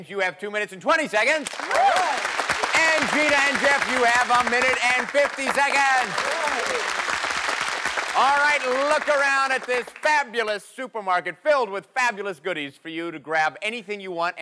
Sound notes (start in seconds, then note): 6.5 cheers and applause